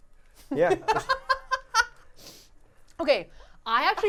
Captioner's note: laughing